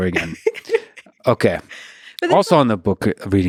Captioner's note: laughing